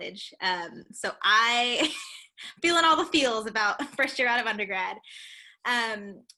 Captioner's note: laughter